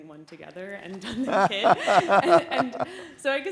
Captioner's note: laughs